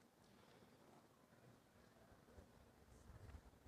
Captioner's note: none